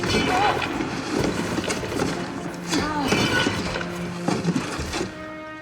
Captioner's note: crashing